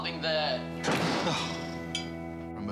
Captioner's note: door slams; dad sighs